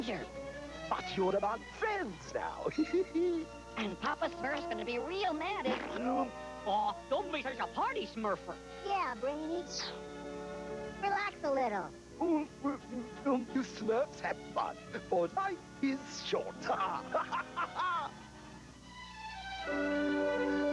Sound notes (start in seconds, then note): 2.5 laughs; 5.6 splat; 16.2 laughs